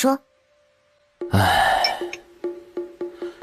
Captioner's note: sigh